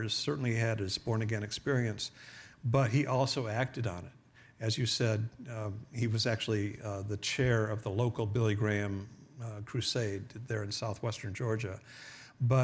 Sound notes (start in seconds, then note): none